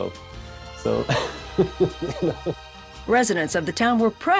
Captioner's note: laughs